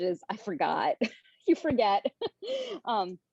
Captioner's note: laughing